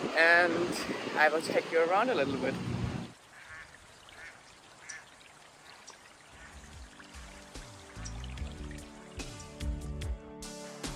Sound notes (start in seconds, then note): 3.0 water trickling; 3.2 duck quacking; 6.9 light pop music